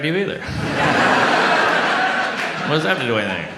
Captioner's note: audience laughs